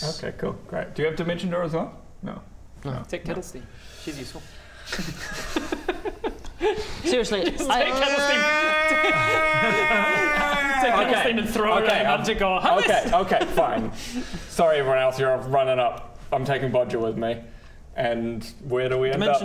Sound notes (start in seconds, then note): 5.0 unkind laughter